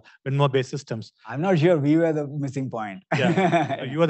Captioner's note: laughs